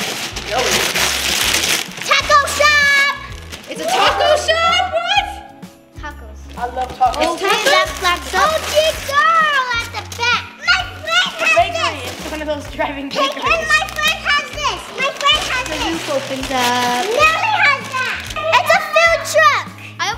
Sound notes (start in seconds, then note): 6.5 overlapping chatter